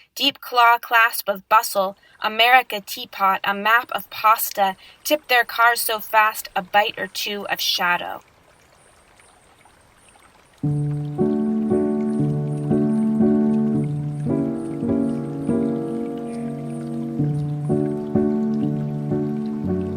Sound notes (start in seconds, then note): 8.7 flowing water; 10.6 piano lullaby